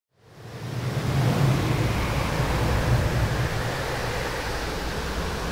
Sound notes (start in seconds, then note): 0.2 wind blowing